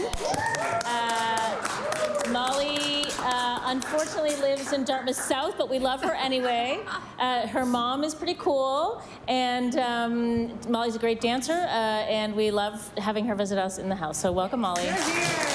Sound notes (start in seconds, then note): 5.1 applause